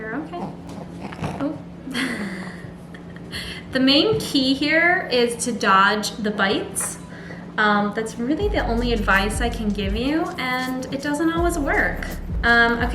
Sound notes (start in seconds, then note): 1.8 laughs